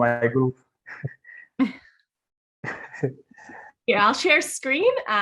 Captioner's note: laughter